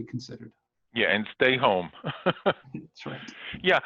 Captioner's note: laughing